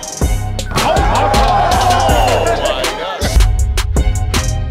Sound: crowd cheering

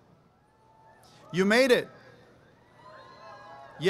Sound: applause, cheering

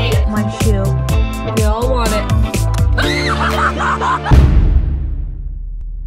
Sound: laughs; screams

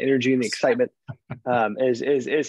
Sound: chuckles

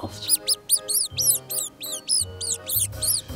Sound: rabbit sounds

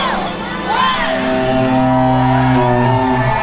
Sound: horn blaring; crowd cheers

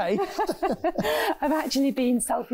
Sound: laughing

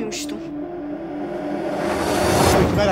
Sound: transition sound

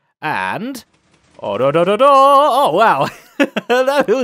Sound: chuckles

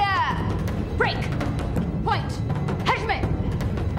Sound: Caitlin shouting; speaking foreign language

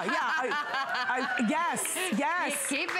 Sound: applause

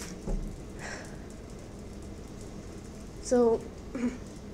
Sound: sighs

